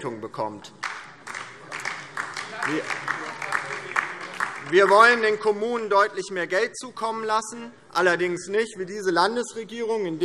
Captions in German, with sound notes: bekommt. [Beifall DIE LINKE] Wir wollen den Kommunen deutlich mehr Geld zukommen lassen, allerdings nicht wie diese Landesregierung,